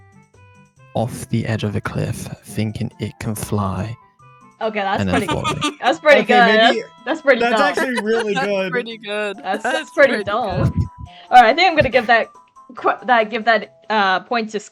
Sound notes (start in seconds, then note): 5.0 laughs